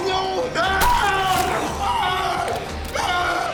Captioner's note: yelling